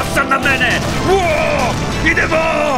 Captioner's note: cheers